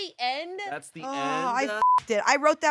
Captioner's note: beep